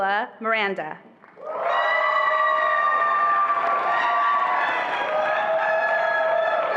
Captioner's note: attendees applauding and cheering